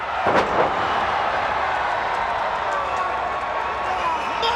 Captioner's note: crowd cheering